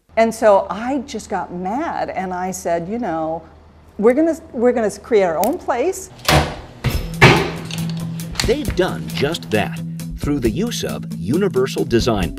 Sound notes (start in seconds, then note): 6.2 hammering